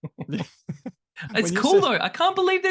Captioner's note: laughter